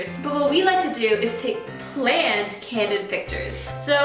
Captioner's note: none